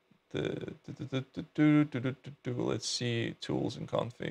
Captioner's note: humming